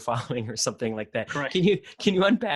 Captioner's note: laughing